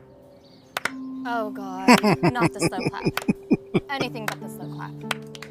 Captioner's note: laughing